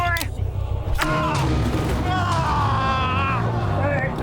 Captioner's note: BL screaming in agony